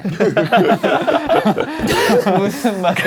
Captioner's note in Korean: 푸핫